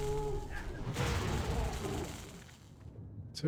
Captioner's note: splash